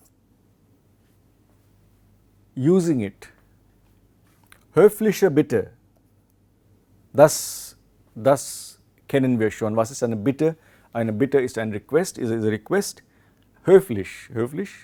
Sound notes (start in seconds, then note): 3.6 chatting, having conversation